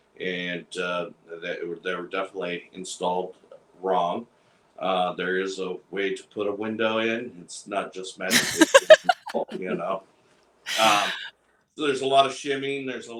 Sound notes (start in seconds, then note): 8.3 laughter drowns out speaker